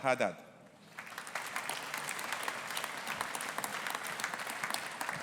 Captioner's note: audience applauding